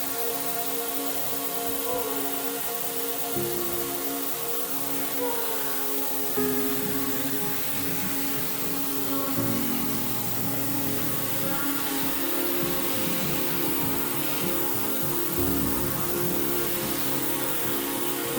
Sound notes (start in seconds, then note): 1.7 shower splashing; 6.4 soft music; 11.1 shower splashing; 15.9 soft music